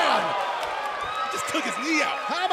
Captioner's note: crowd cheering